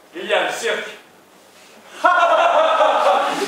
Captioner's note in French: Rires